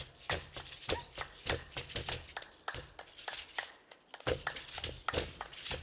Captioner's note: hands clapping and beads rattling